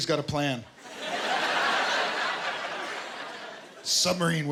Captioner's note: laughter